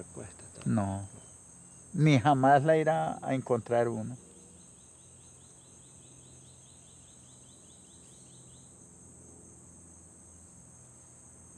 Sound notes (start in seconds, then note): 4.5 grasshoppers chirping